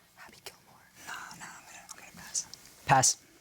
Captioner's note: whispers